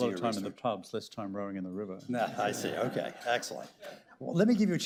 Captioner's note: laughter